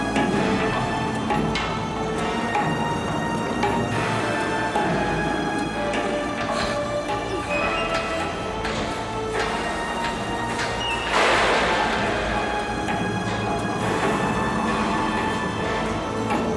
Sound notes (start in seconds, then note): 11.1 metal gate clatters; 13.2 suspenseful music